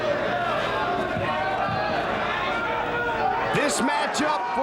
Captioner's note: ambient chatter